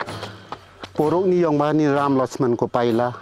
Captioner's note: limbu dialect